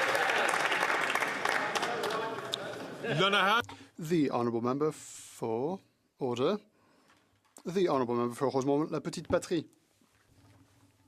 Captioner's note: some Applause